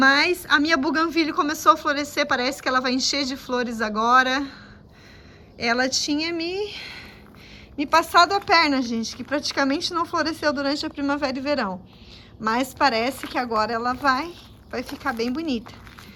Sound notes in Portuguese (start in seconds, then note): 6.7 suspirando